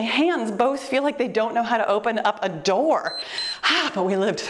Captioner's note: timer beeps